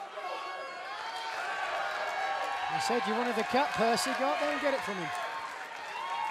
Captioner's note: cheers and applause